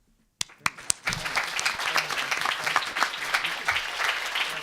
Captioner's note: applause